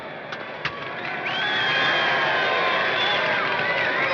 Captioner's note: crowd whistling and cheering